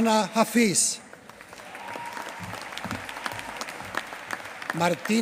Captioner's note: applause